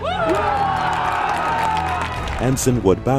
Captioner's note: crowd cheers